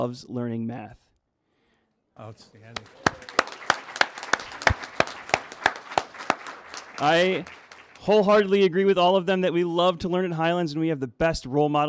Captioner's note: applause